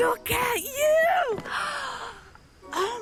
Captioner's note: gasps